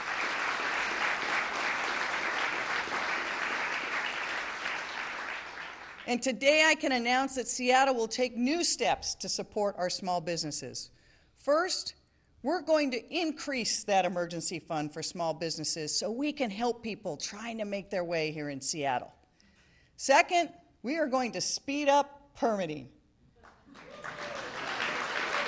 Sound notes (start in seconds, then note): 5.7 applause